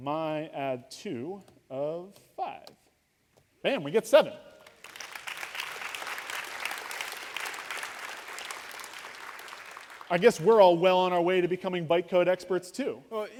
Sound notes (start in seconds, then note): 4.6 applause